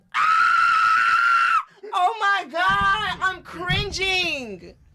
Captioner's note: screams